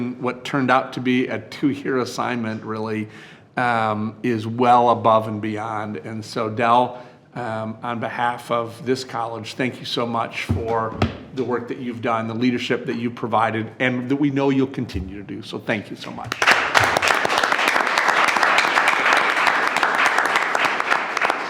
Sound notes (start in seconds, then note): 16.2 all clapping